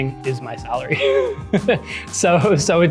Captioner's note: laughs